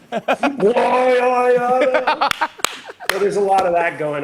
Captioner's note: laughing